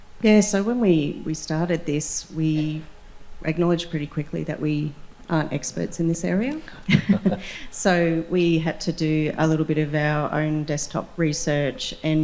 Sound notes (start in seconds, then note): 6.8 laughter